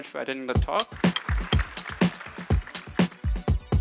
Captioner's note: applause